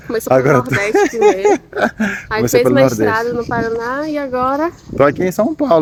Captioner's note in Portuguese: risadas